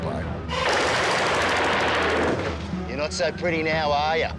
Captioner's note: gunfire rattling